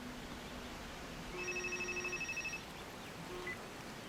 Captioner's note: cell phone vibrating